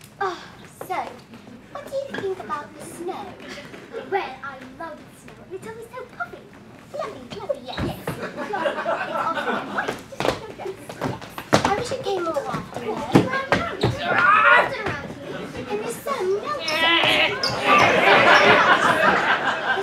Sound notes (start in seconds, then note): 14.0 grunting; 17.0 grunting